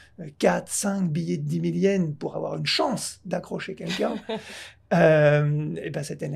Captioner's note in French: rires